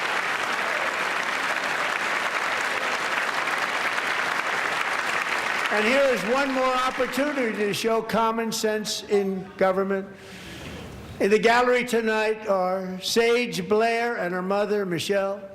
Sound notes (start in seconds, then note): 3.1 applause